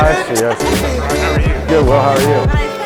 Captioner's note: male Voice